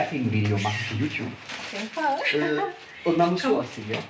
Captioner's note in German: lacht